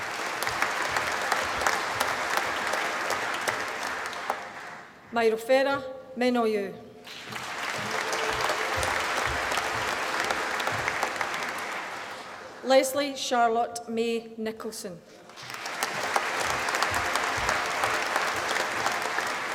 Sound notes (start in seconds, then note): 0.0 applause; 7.0 applause; 15.2 applause